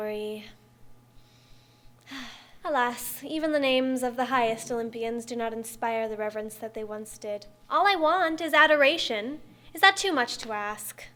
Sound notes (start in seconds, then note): 2.0 wistful sigh